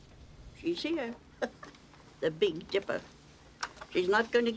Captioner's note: chuckling